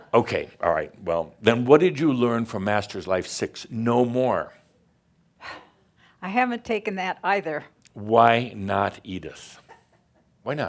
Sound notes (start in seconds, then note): 5.2 sighs